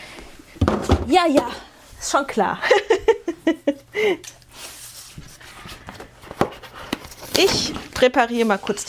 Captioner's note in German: gelächter